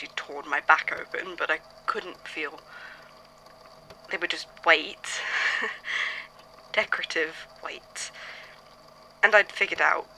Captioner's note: laughs